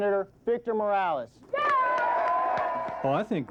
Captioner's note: applause